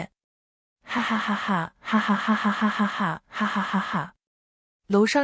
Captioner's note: hahahahahahahahahahahahahahahahahahahahahahahaha